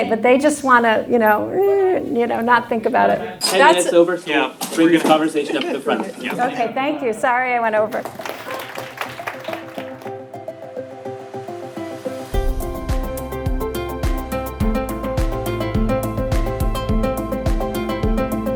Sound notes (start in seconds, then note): 7.9 applause